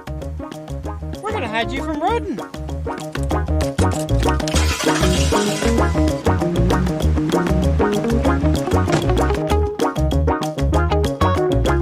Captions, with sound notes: We're gonna hide you from Roden. [upbeat music] [engine starting] [door closing] [phone beeping]